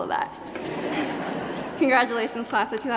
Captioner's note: laughter